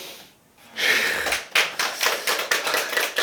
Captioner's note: deep sigh